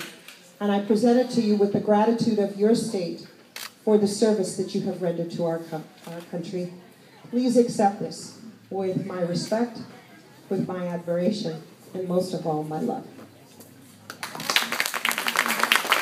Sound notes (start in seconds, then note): 7.1 applause